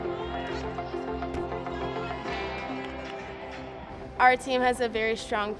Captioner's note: feet thud